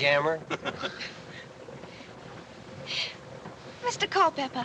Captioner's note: all Laughing